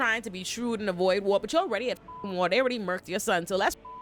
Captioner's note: beep; beep